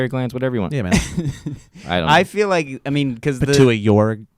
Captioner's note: laughing